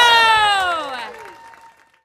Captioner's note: audience continues cheering